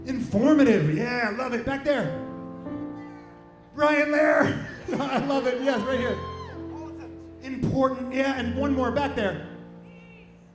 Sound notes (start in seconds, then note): 4.4 laughs